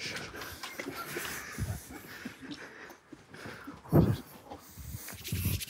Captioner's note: group quietly laughing continues